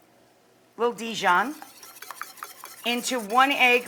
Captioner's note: whisk stirring